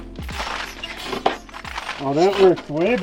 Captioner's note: tool scraping